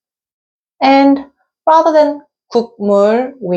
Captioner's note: pronouncing Korean